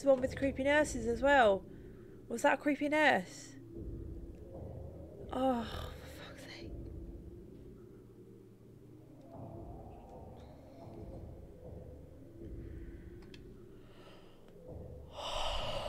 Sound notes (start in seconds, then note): 5.5 whispered